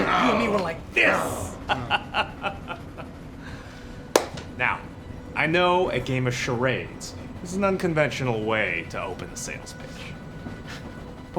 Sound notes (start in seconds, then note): 1.4 laughs